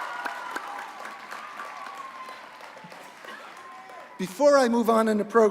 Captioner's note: applause